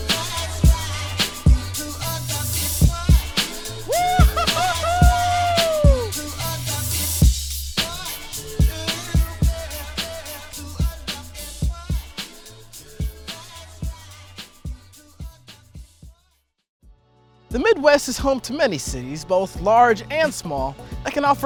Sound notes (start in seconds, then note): 4.2 shouting